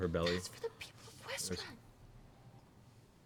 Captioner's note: whispers